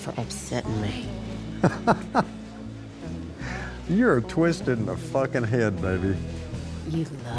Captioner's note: laughs